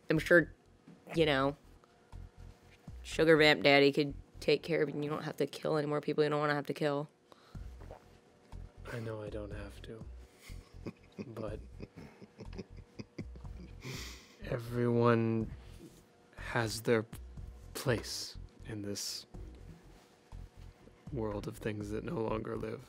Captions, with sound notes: I'm sure, you know, Sugarvamp Daddy can take care of it and you don't have to kill any more people you don't wanna have to kill. - I know I don't have to. (chuckles) But everyone has their place in this world of things that no longer live.